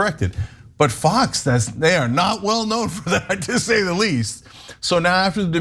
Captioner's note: laugh